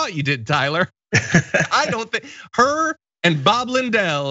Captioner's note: laugh